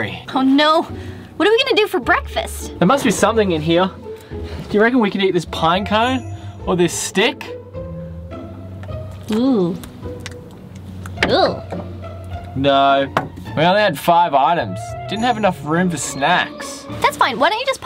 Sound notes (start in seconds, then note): 8.1 playful music; 11.2 snarls